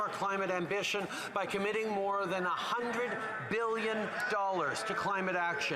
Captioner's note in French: voix de l'interprète